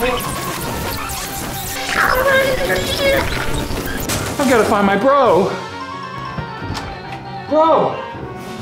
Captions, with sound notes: (short circuiting) I've got to find my bro. Bro?